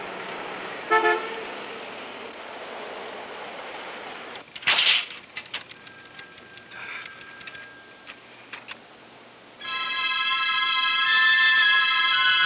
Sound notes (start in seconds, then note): 0.8 honking horn; 10.4 suspenseful music